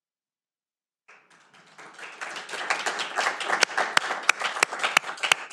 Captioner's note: audience applauding